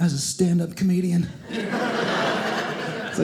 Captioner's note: audience laughing